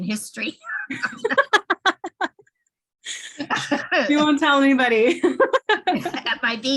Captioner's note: laughter